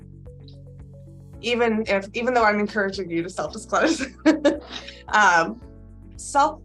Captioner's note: laughs